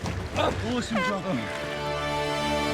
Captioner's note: horn blows; dramatic music